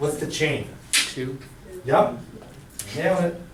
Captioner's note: voiceover